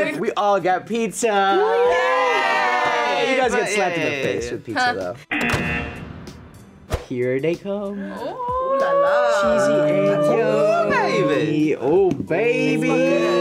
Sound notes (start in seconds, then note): 1.4 all cheer; 5.3 buzzer